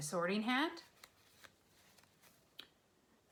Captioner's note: sifting through cards